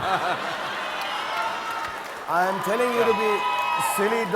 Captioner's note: audience cheering